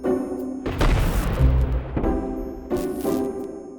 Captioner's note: upbeat music; thunder